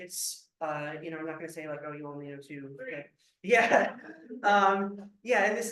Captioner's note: laughter